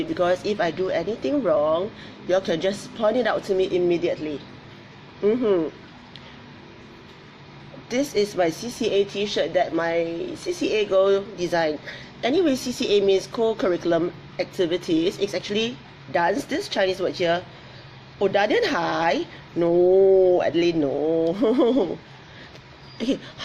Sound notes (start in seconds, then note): 18.4 speaks in foreign language; 21.3 laughs